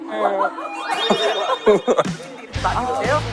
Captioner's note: Bursts of laughter at YouTube-style jokes